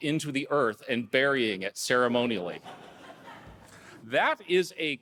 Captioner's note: audience laughing